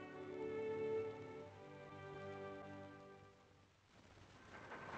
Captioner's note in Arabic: صرير الرافعة